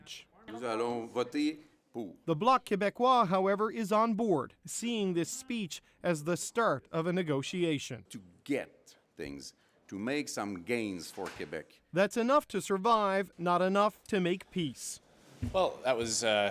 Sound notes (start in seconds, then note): 5.1 speaking French